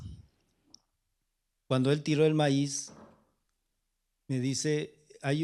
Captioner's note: speaking spanish